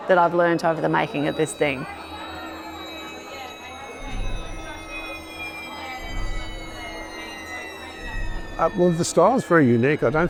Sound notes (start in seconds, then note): 2.2 eerie music; 2.2 people chattering